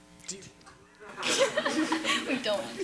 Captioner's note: panel laughs